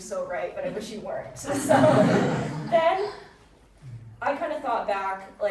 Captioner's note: audience laughing